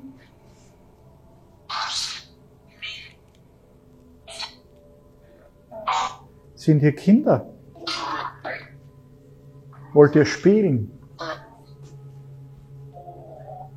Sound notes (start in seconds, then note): 8.8 child's voice